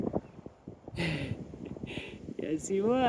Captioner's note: laughs